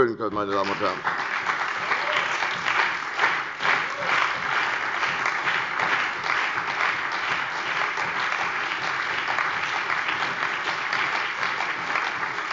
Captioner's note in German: Beifall bei der CDU und dem BÜNDNIS 90/DIE GRÜNEN